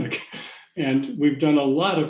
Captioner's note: laughs